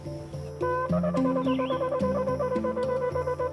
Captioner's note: blowing horn